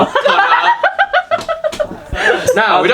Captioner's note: audience member laughing